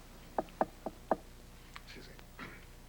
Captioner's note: knock on door